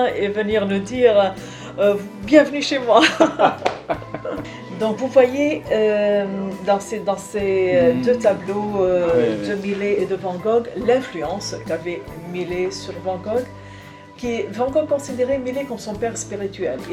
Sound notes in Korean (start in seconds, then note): 3.0 웃음